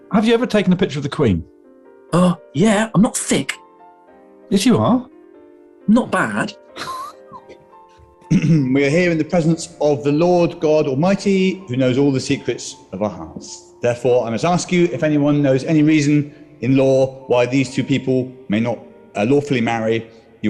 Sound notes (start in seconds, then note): 8.2 clears throat; 8.3 sniggering